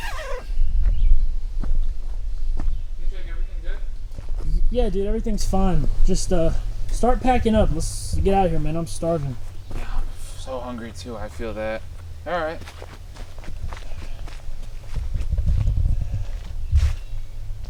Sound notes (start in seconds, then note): 0.0 zipper zipping